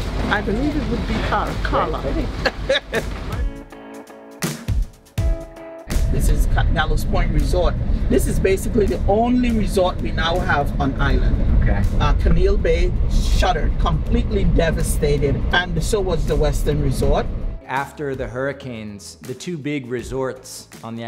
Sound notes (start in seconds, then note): 2.2 laughs; 3.9 pop music